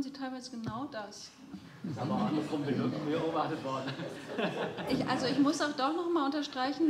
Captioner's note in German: Gelächter